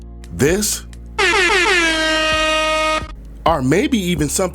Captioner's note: slaps; air horn blows